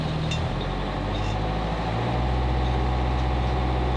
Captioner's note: engine purring